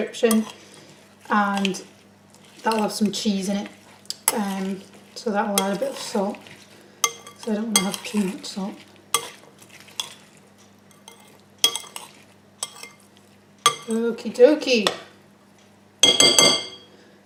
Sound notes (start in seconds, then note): 10.5 stirring; 16.0 spoon hitting glass